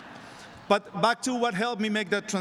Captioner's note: laughter